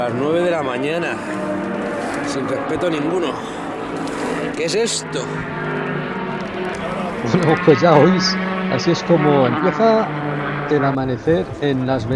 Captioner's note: engines